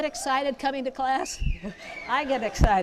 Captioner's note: whistling